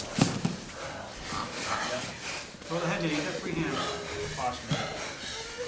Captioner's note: people talking on the sidelines